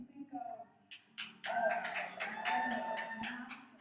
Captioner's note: audience cheers